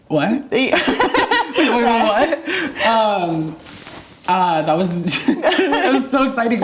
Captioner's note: both laugh